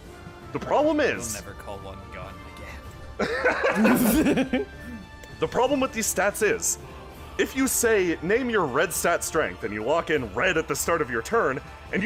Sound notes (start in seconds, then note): 3.2 laughter